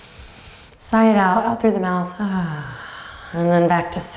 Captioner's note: sighs